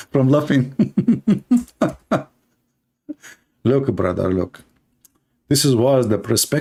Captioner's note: Ketawa